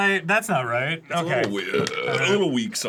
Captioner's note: burps